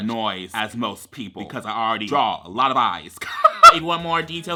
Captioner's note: laughs